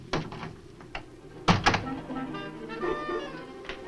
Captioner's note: suspenseful orchestral music; door closes